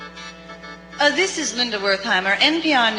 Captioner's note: voiceover